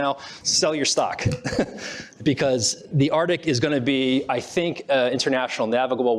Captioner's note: laughs